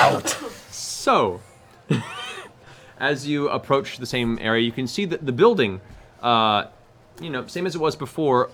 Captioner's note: laughs